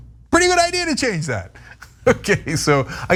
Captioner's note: laugh